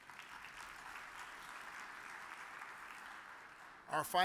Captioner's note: audience applauds